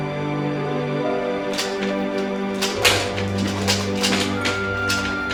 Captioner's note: chair rattling